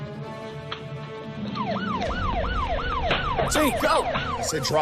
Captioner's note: siren wailing